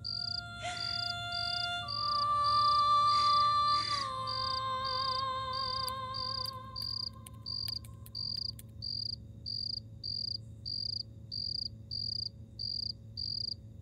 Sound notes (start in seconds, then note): 0.0 Sobbing